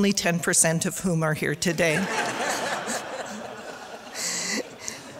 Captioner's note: audience laughter